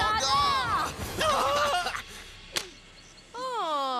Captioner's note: gasping